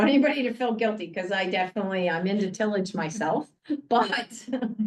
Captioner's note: laughs